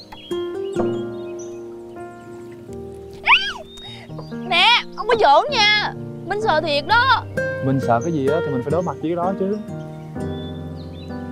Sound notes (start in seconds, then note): 3.2 screaming